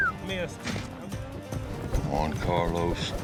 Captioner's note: whistles